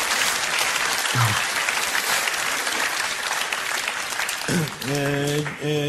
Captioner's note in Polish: Aplauz